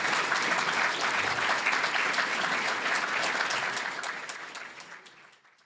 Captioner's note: applause